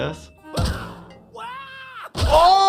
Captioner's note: Nutty yelling